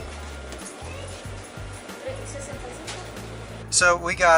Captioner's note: none